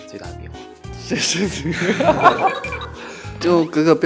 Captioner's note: laughing his head off